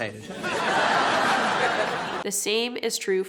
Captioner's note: audience laughing